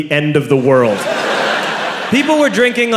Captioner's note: crowd laughs